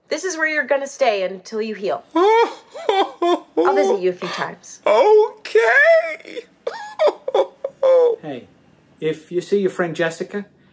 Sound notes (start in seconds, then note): 2.1 crying